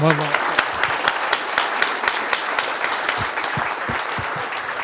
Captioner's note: applause